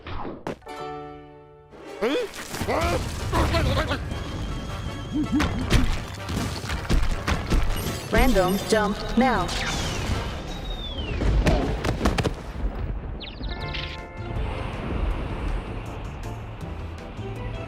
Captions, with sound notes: HUH? (confused grumbles) (crumbling) (robot voice) RANDOM JUMP NOW. (birds chirping) (whirring)